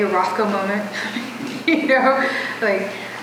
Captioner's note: chuckles